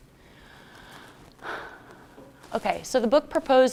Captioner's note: sighs